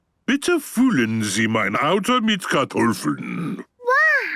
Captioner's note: speaking German